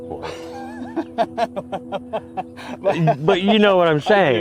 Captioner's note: laughing cheerfully